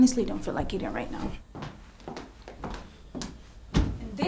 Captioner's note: footsteps tapping